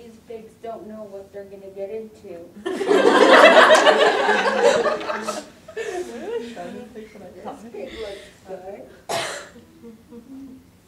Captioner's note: audience laughter